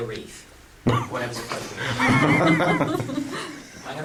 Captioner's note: laughing